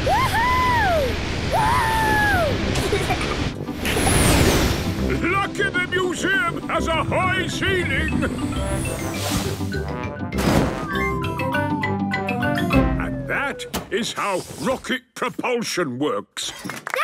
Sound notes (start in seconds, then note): 1.6 rocket thrusting